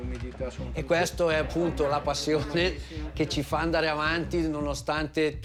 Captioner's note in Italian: parla in italiano